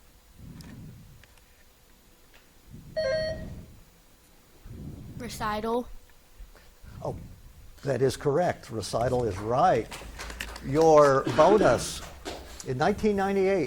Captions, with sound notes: (buzzer beeps) - Recital. - Oh, that is correct. Recital is right. (spectators clap) Your bonus, in 1998,